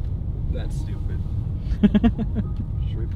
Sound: laughing

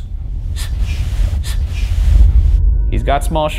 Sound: gentle foreboding music; voice shushes

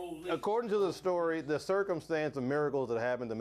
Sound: bell rings

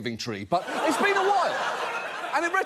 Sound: audience laughs

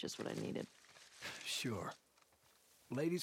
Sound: laugh

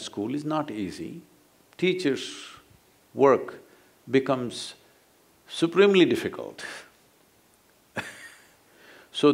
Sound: laughs

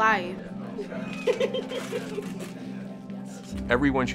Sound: laughing

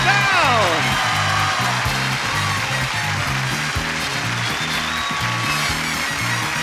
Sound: audience cheers; upbeat music

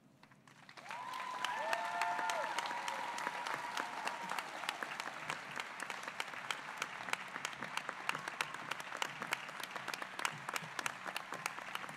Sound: applause

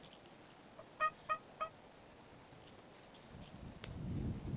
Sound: turkey yelping

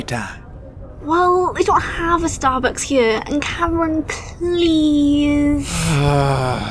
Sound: whiny; sighs, also whiny

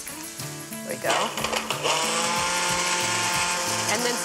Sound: blender whirring

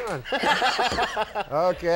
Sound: Andy laughing

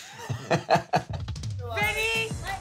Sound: Pauly laughing

